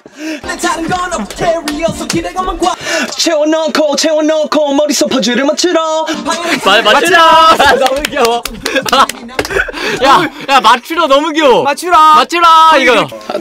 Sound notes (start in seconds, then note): 7.7 seal-clapping